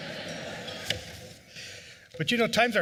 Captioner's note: laughter